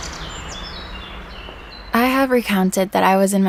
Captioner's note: birds chirp